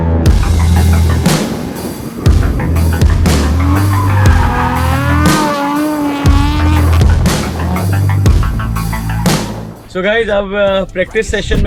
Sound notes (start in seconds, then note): 0.0 car drifting noise; 0.0 car drifting noise with music playing in background